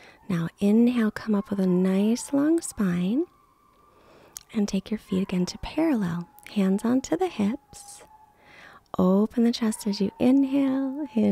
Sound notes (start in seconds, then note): 8.0 dog howling